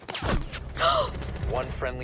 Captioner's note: dramtic gasp